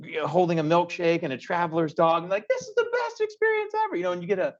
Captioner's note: high-pitched voice